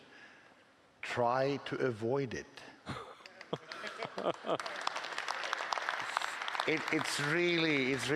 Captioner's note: applause